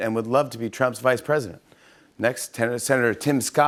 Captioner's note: none